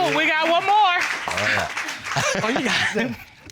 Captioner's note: laughs